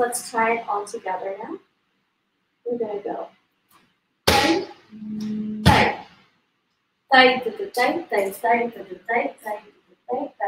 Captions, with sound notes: Please let's try it all together now we're gonna go. (stamps foot) (stamps foot) (sings in Indian language)